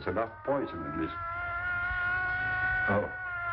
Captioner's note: sirens of approaching police cars